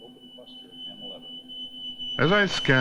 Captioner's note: beeping